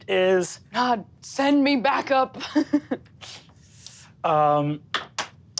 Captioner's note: laughs